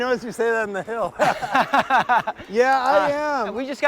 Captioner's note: laugh